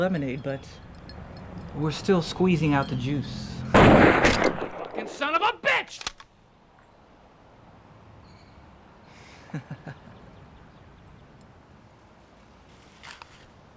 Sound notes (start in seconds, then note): 3.7 gunshot bangs; 5.8 gun clicks; 9.4 Donovan chuckles